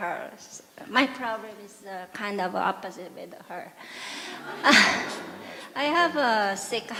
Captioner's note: audience Laughter